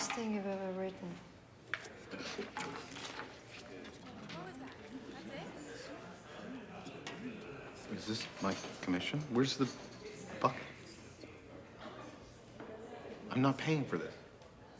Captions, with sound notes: - The best thing you've ever written. - What was that? That's it? (people chattering) - Is this my commission? Where's the bucket? I'm not paying for this.